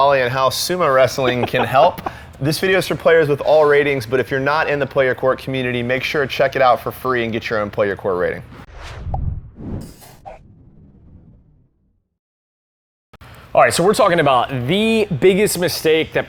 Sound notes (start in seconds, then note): 1.0 laughs; 8.6 air whooshing